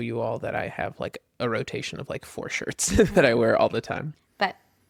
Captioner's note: laughs